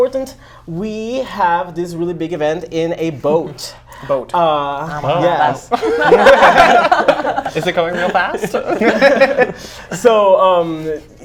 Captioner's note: laughs